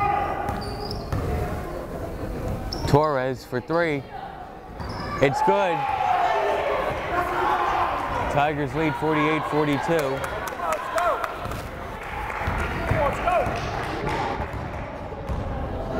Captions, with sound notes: Torres for three, it's good. (crowd cheering) Tigers lead 48-42. (crowd chattering)